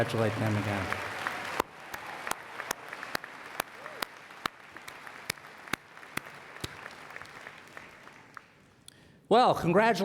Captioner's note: applause